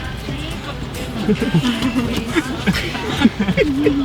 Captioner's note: laughing